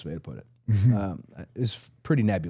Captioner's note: Dallas chuckling